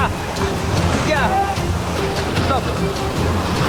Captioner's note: men yelling